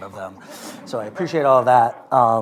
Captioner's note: laughter